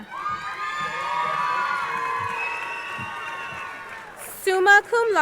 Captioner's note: crowd cheering